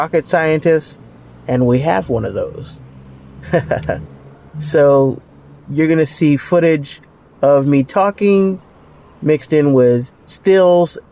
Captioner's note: laughs